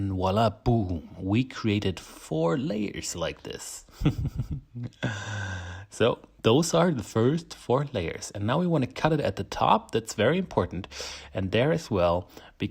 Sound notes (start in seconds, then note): 4.0 laughs